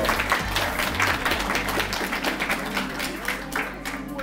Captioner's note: audience clapping